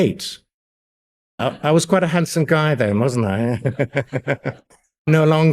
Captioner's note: laughs